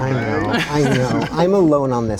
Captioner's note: all laugh